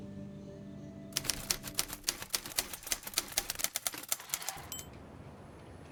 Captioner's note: typwriter clacking